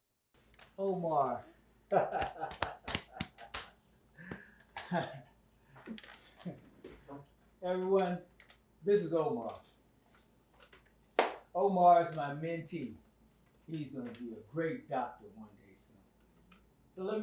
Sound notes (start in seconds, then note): 1.9 laughing